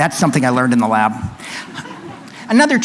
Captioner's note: laughter